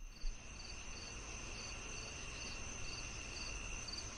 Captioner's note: crickets chirping